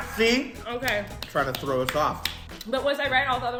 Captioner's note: clapping